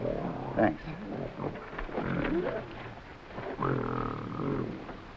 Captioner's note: gorilla grunting